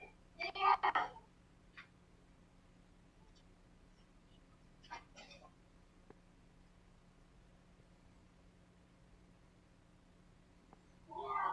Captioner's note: screaming